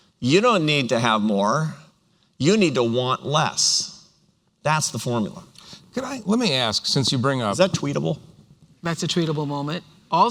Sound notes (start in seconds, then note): none